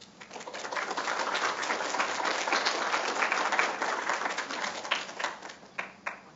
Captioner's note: applause